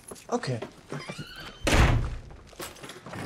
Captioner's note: door slams shut